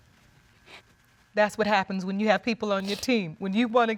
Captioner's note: voice breaks